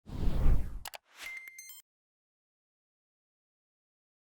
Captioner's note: electronic tones